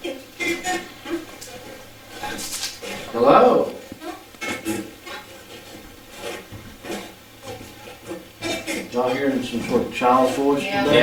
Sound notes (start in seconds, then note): 4.5 static playback transmitting